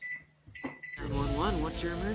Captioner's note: microwave button beeps